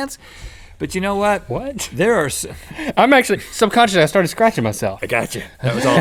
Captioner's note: laughs